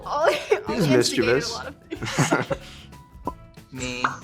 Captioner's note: laughing; laughs